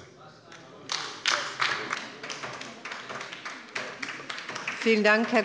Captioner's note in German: Beifall bei der LINKEN